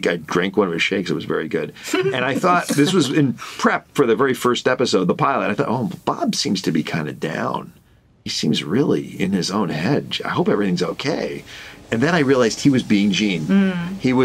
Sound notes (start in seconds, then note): 1.8 all laughing